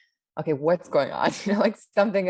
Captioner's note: laughs